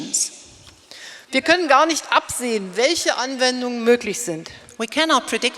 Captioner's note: speaking in German